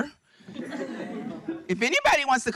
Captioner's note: audience laughing